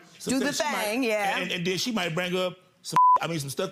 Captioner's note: beep